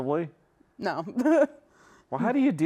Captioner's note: laughs